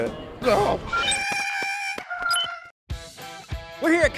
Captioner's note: porg screeches